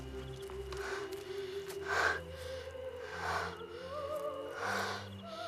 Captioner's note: labored breathing